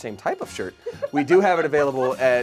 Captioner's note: laughing